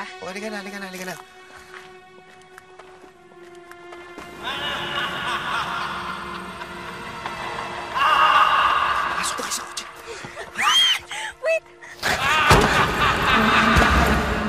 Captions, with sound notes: Come on, come on. [Saling laughing] -Get in the car! -[Tisha shrieks]